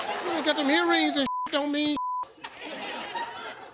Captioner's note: beep; laughter